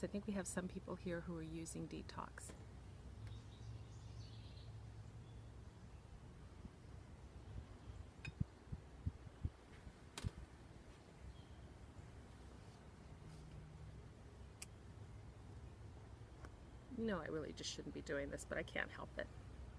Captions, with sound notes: I think we have some people here who are using Detox. (birds chirping) I know really just shouldn't be doing this but I can't help it.